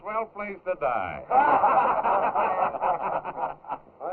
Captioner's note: men laughing